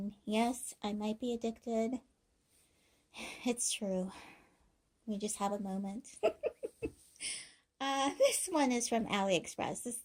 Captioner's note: laughing